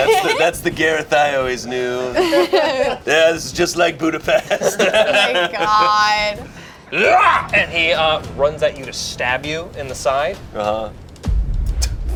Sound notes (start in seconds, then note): 7.1 shouts